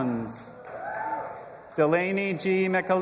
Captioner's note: audience applauding and cheering